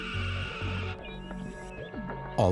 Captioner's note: caws